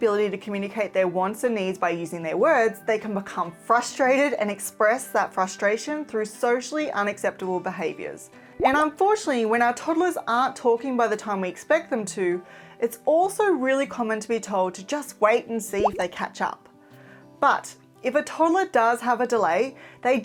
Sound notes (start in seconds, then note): 8.7 graphics popping; 15.8 graphics popping